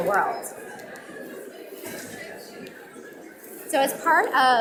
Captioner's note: audience mumbling